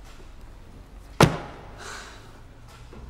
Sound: book slams loudly

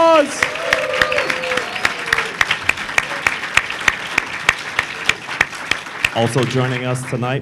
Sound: cheering and applause

